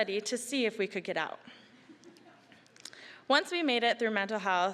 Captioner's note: scattered laughing